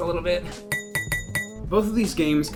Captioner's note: ding!